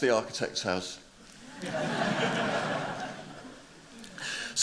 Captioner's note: laughter